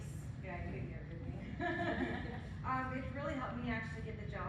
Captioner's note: laughing